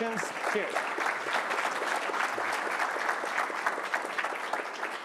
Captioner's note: applause